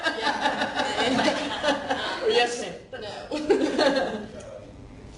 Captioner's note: laughing